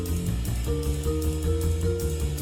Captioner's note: none